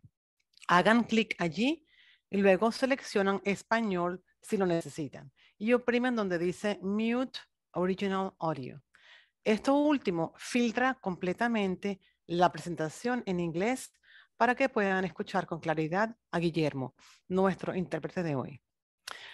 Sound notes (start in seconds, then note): 9.4 speaking foreign language